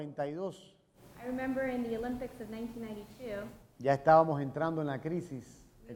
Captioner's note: speaking in Spanish